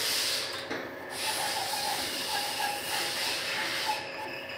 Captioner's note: hissing in the background